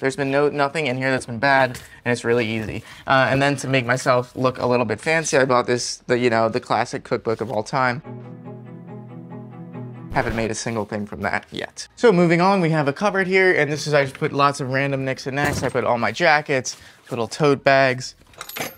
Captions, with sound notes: There's been no nothing in here that's been bad and it's really easy. And then to make myself look a little bit fancy, I bought this, you know, the classic cookbook of all time. (sophisticated violin music) (record rips) Haven't made a single thing from that yet. So moving on, we have a cupboard here, and I put lots of random nicks and nacks. I put all my jackets, little tote bags.